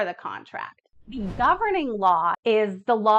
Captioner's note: air whooshing